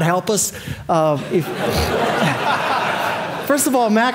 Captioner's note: audience laughing